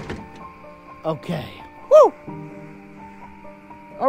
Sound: groaning

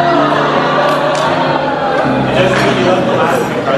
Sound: crowd laughing

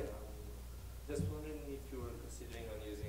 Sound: voiceover

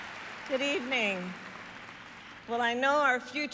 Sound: applause

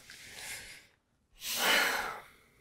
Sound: deep breaths

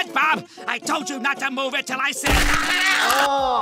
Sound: screaming

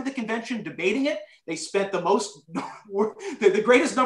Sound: laughter

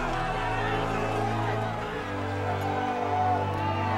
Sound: cheering

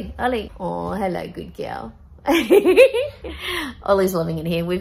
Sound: giggles

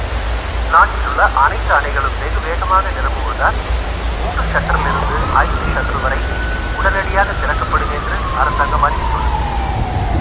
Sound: radio news

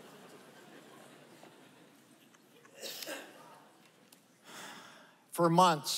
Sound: laughter

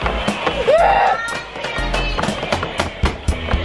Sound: screaming

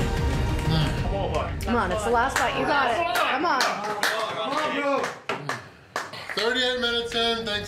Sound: crowd

